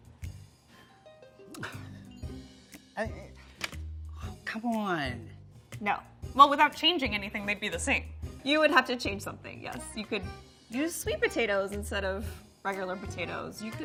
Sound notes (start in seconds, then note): 1.5 sighs